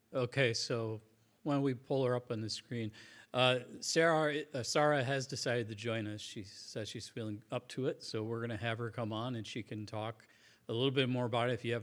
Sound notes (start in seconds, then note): none